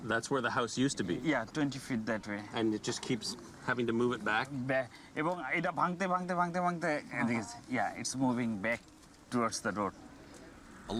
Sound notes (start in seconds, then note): 5.7 speaking Bengali